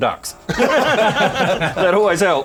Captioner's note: laughter